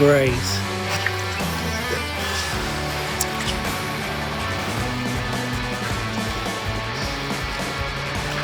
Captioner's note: breathing